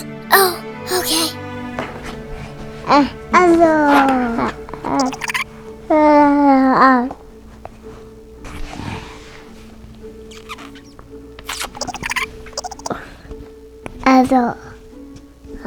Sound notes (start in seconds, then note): 0.9 gasps; 11.4 kissing sound; 11.8 Onzu giggles